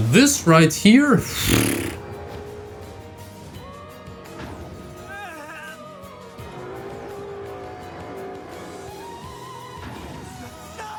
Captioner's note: fart noise